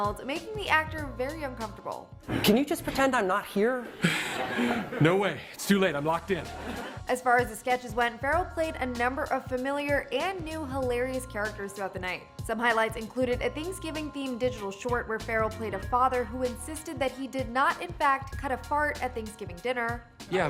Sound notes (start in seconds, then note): 4.0 audience laughs